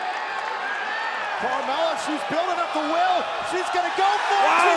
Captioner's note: crowd cheering